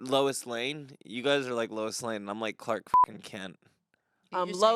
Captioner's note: beep